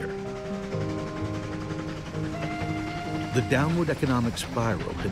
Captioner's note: train chugging, whistle blows